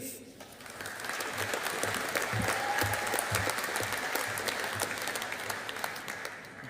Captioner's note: audience applauding